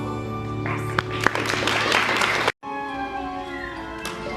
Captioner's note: applause; song ends